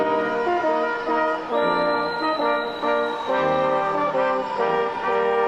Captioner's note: audience cheering